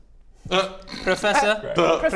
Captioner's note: sniggers